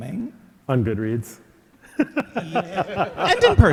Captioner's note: laughing